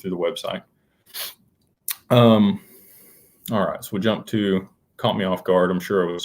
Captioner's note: snorts